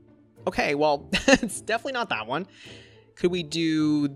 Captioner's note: laughs